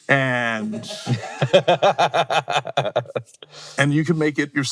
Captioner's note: everyone laughing